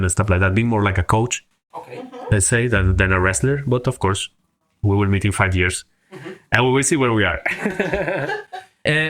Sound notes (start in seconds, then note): 6.1 laughs